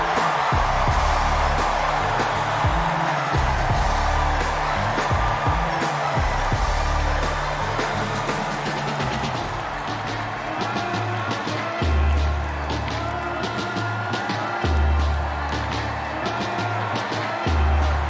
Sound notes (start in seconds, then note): 7.9 cheers and applause